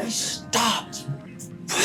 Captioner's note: angry mumbling